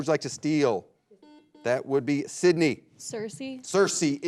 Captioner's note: buzzer blares